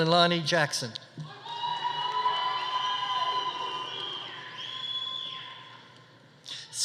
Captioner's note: audience cheering; audience applauding